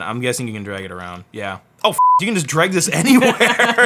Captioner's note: beep; laughing